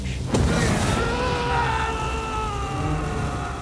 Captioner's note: Bill screams